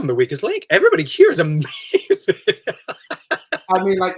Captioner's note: he laughs